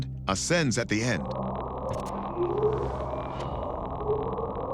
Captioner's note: faint bwoop